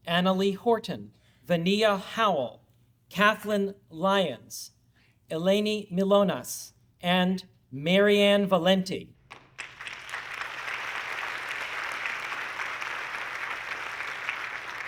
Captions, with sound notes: Anna Lee Horton, Venia Howell, Cathleen Lyons, Elany Milonas, and Maryanne Valenti. (audience clapping)